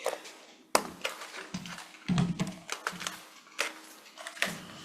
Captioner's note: papers shuffling